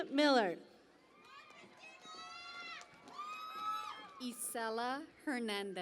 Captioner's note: cheering and applause